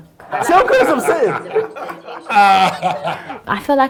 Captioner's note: laughing